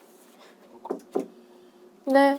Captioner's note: knock Knock